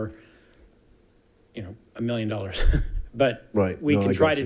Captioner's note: chuckling